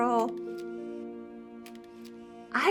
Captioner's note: camera shutter clicking